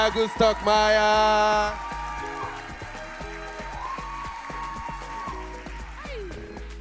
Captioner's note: audience cheers; audience applauds